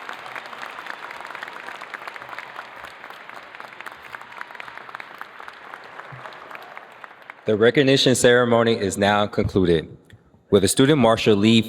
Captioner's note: cheers and applause